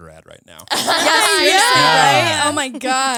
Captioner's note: all laughing